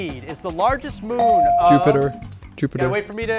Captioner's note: bell ring